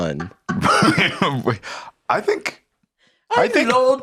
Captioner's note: laughs